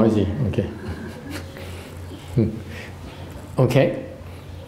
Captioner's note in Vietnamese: chuckle